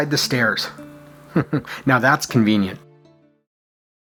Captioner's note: chuckles